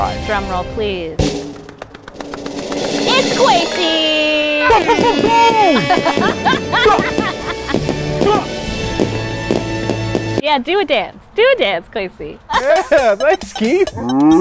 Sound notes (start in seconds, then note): 1.2 drum roll; 4.8 fireworks exploding and celebratory music